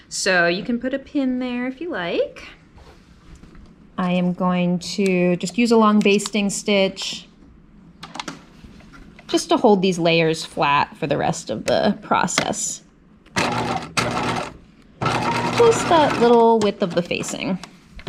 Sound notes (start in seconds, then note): 15.0 sewing machine whirring